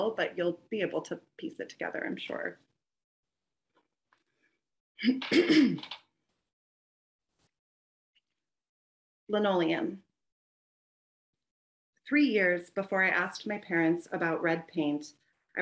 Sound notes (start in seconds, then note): 5.0 clears throat